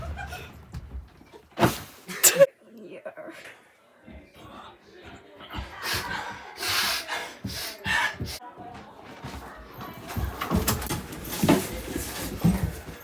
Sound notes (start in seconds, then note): 4.3 yet more sniffing